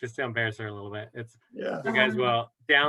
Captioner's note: laughter